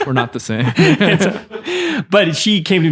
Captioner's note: laughing